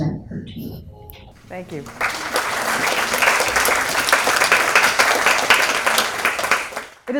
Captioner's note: audience clapping